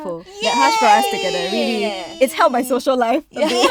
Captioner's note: girls cheering; girls laughing